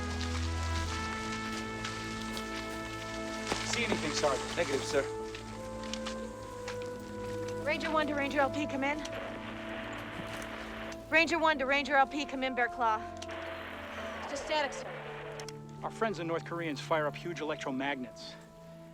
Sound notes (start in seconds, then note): 9.6 radio Static; 13.4 static Continues